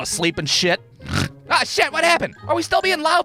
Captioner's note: snores